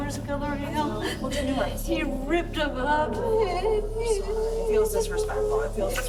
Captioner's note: crying